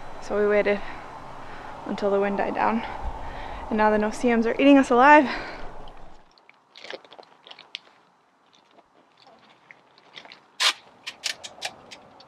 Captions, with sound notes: so we waited until the wind died down. And now the no-see-ums are eating us alive. (tape swooshing)